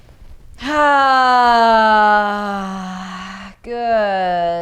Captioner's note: loud sighing